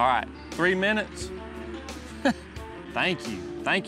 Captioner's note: laughs